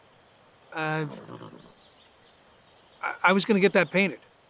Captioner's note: stammering